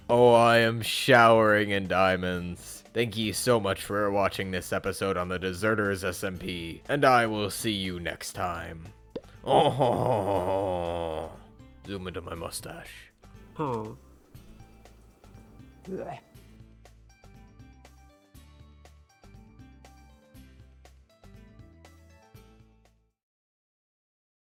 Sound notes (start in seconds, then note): 13.6 imitates villager; 15.8 imitates llama